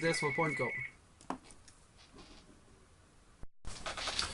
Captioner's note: phone rings